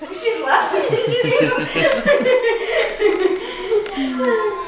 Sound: laughter

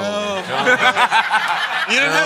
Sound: laughter

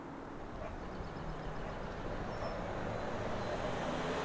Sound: ambient street sounds

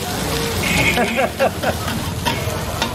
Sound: laughs at the Question

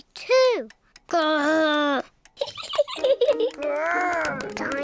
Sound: laughs

